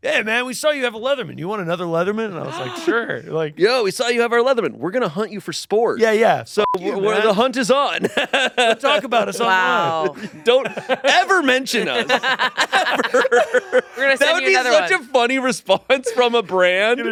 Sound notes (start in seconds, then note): 6.6 beep; 8.5 laughs